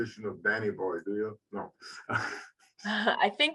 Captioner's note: laughing